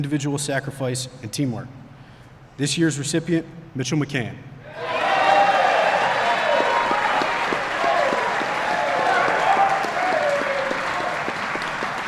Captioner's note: applause